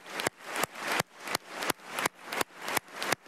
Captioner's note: applause